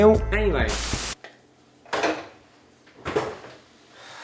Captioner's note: static